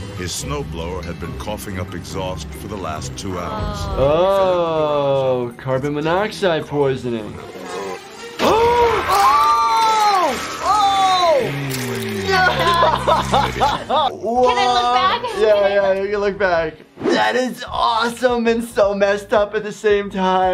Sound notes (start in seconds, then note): 8.7 gasps; 9.5 both groan